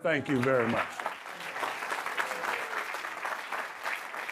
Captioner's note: audience clapping